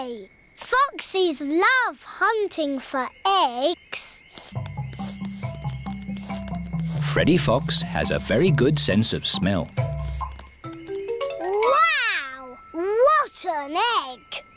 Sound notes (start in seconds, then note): 4.3 sniffing